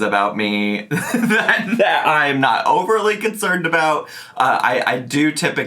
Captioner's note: laughing